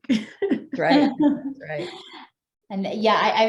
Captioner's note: all chuckles